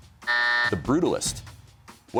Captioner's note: buzzer sounds